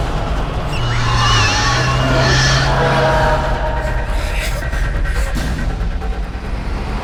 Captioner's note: demon roaring; screeching